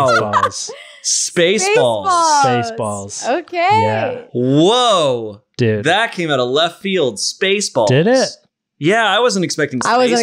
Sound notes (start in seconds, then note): 0.0 laughing